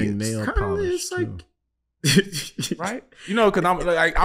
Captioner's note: laughing